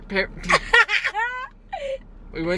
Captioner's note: laughter